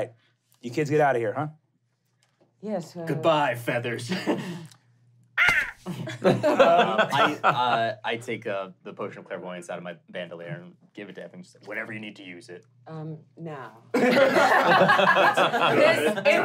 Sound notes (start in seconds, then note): 5.4 caws; 5.4 laughing; 14.0 laughing